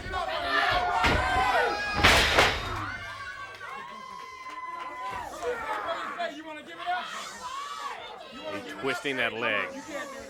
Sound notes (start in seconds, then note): 0.0 crowd chatter